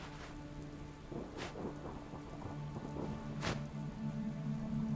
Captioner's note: thunder rumbling